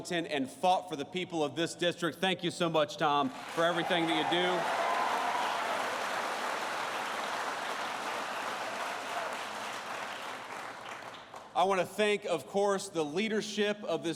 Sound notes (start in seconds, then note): 5.4 applause